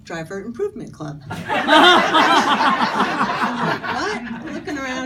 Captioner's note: audience laughing